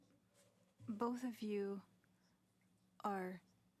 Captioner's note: speaking in French